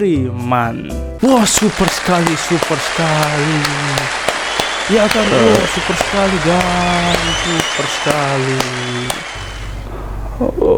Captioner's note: audience gives applause